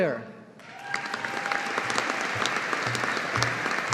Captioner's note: audience applauding